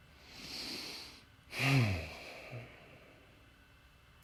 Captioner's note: deep breathing